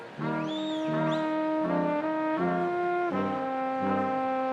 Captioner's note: person whistles